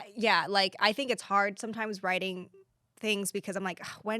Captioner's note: none